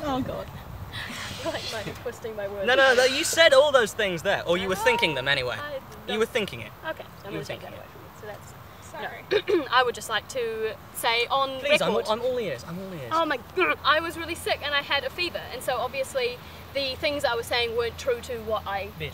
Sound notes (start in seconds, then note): 9.3 clears throat